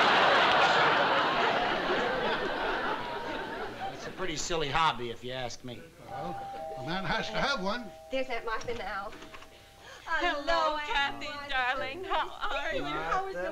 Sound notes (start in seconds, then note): 6.1 doorbell